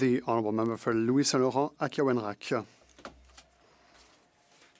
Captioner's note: speaking Alternate Language